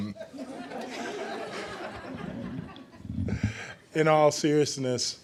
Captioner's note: laughing